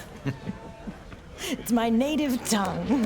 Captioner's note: both giggling